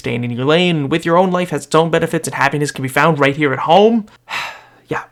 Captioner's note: breath heavy